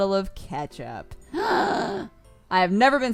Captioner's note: gasps